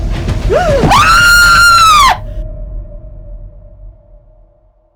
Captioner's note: suspenseful music; woman screaming